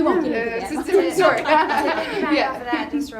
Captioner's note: laughing